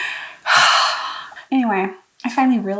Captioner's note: sigh